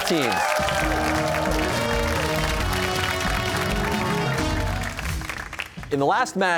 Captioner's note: cheers and applause